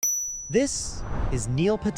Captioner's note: chime ringing